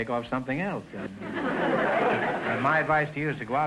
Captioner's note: audience laughter